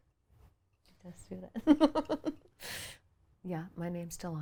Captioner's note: laughs